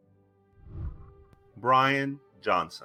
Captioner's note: whooshing